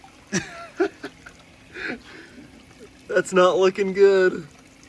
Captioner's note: laughs